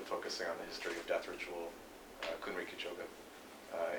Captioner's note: non-english speech